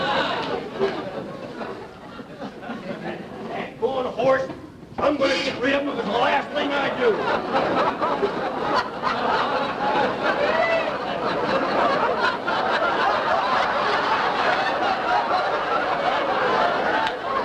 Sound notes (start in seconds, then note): 5.2 audience laughing